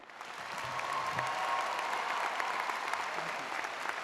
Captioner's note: audience cheers